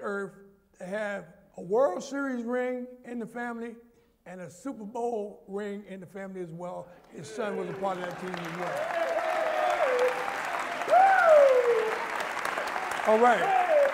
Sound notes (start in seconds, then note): 8.0 applause